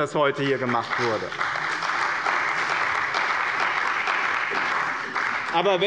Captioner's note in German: Beifall bei dem BÜNDNIS 90/DIE GRÜNEN und der CDU